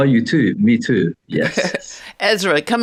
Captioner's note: chuckles